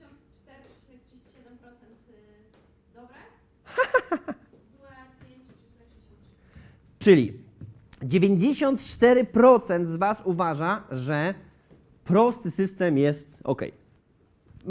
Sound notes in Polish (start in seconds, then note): 3.7 śmiech prowadzącego